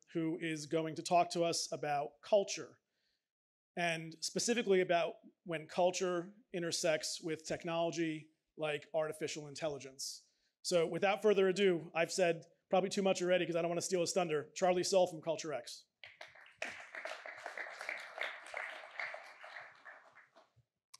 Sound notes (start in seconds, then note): 16.0 applause